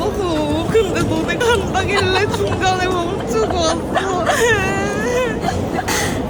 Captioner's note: sob